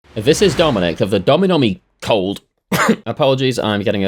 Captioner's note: cough